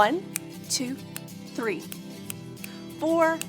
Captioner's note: snapping